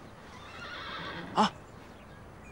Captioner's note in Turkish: Hayvan Sesi